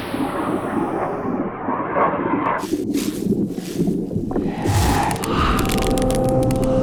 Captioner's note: bubbling, frothing; crackling